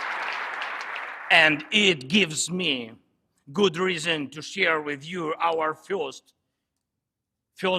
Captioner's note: applause